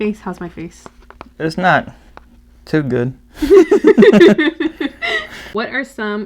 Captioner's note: laugh